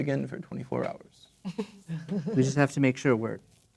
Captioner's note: players chuckling